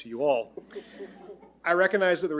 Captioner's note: all laughing